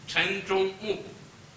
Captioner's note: speaks Chinese